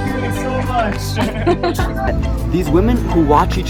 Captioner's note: laughing